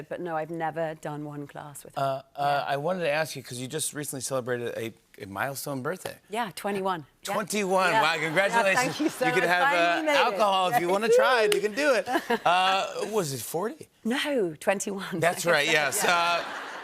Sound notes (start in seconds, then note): 8.0 laughter; 15.5 laughter